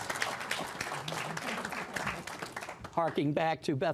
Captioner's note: applause